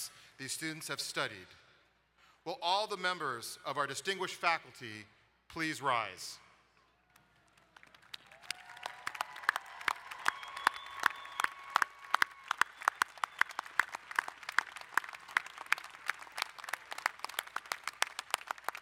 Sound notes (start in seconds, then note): 7.7 crowd cheering and applauding